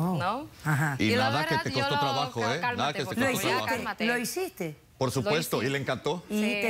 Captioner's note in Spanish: Comentarios al unísono